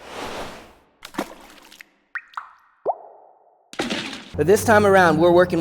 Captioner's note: splashing and dripping